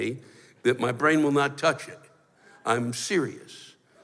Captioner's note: none